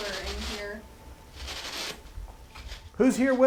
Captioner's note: spirit box static